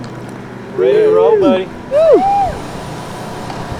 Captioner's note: group cheers